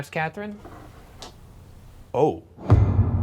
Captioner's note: shuffling; ominous music